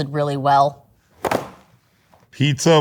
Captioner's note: box clanging